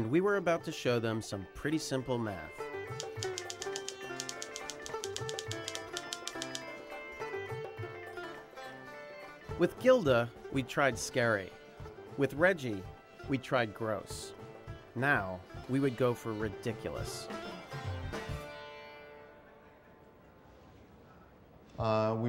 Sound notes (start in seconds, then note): 3.0 typewriter clacking